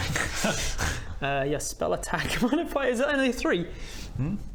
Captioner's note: laughs